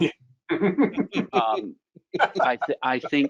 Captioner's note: laughing